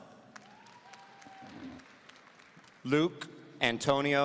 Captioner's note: audience applauding